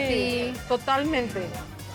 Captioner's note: speaking Spanish